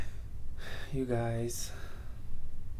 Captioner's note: sighs